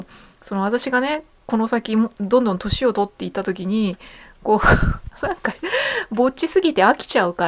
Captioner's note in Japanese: 笑い